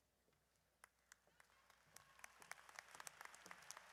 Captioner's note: audience applauds